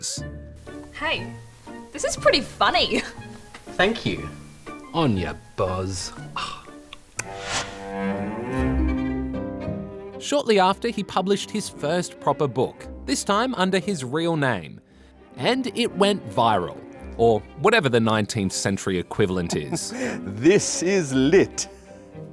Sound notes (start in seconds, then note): 6.3 scoffs